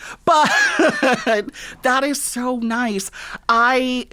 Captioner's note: laughter